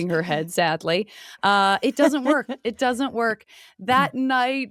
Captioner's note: laughs